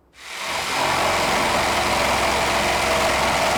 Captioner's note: saw buzzing